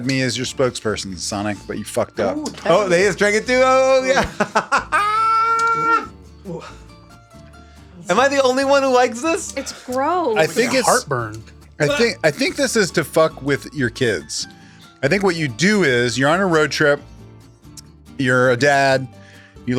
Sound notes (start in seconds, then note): 4.2 laughs; 6.2 gentle music continues